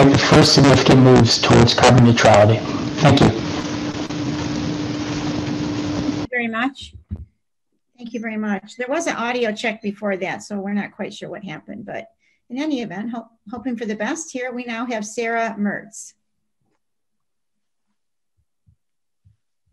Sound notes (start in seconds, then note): 1.7 distorted audio